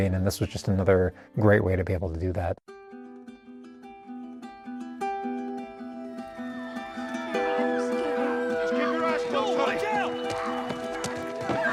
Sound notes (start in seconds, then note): 2.8 gentle music; 6.0 people squealing